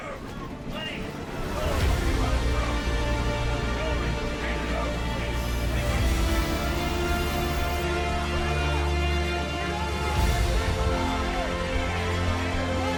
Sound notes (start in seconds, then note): 0.2 Jesse's men yelling indistinctly; 6.3 people yelling; 6.3 suspenseful music